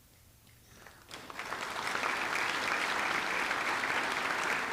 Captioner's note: audience clapping